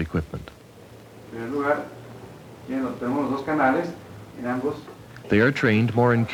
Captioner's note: non-English speech